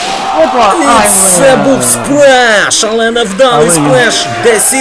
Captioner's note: splash